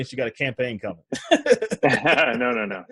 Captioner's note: laughs